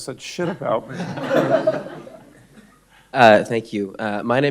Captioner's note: everyone laughing